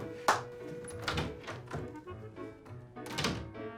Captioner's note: door opens; door closes